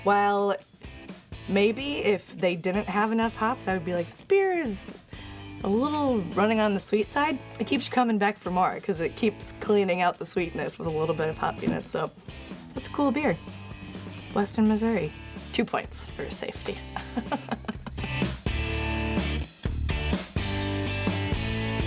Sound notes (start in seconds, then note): 16.7 laughs; 19.1 upbeat music